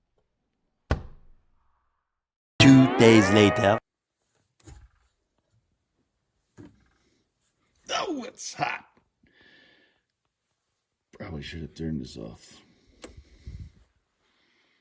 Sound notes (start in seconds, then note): 2.0 cartoon voice